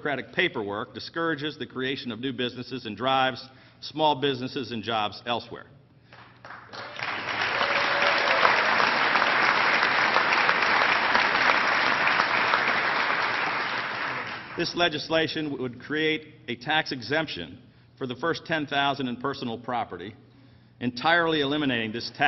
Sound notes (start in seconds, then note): 9.2 applause